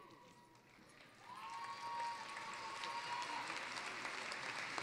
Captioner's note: cheering, applause